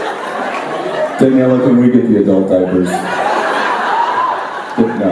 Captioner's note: audience laughs